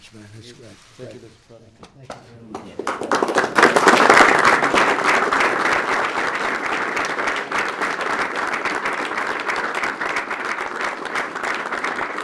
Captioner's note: applause